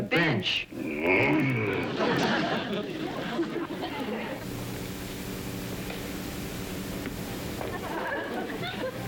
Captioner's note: trimmit growling